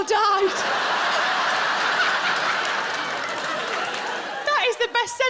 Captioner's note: audience laughing